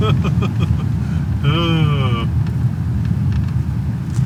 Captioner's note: laughs